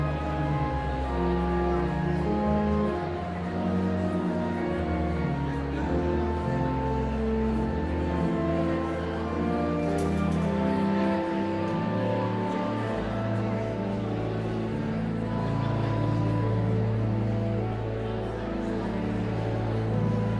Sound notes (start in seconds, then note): 0.3 enigmatic organ music continues; 5.3 audience chattering continues; 15.6 enigmatic organ music continues